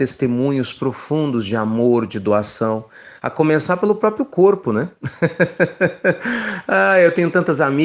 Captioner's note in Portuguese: risos